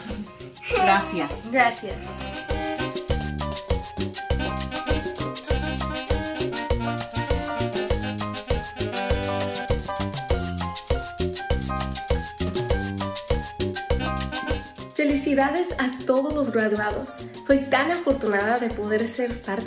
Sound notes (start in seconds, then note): 14.9 speaks in foreign language